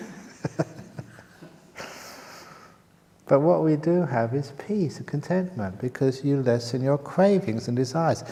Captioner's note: laughter